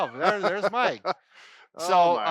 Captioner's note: laughs